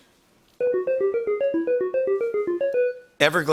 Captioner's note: beeping